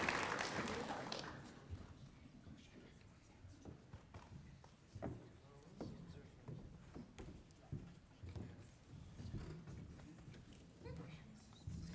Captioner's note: applause